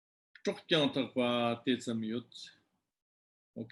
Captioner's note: tibetan